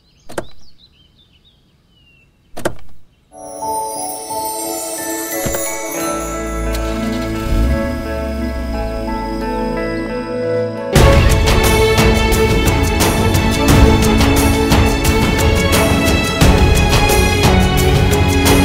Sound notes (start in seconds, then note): 0.3 door opens; 2.6 door opens; 6.5 engine starts; 6.6 door closes